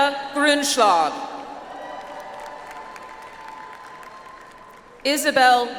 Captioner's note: audience applauds